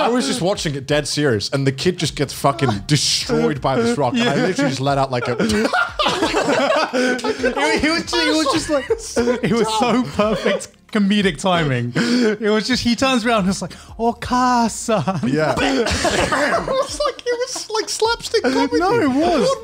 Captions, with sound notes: - I was just watching a dead series and the kid just gets fucking destroyed by this rock and I literally just let out, like a (laughs). - He was just like, he was so perfect comedic timing. He was just, he turns around, he's like, (in foreign language) - It was like slap stick...what was that.